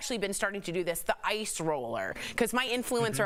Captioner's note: laughter